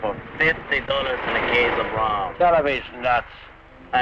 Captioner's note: Colonel Cabeza speaking in Spanish; man speaking in Spanish